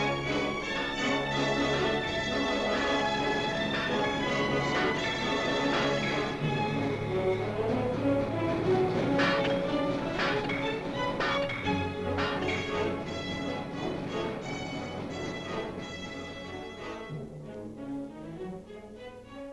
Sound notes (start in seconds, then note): 9.1 dramatic music; 9.1 metal banging sound; 13.1 dramatic music